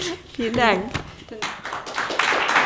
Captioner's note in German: Applaus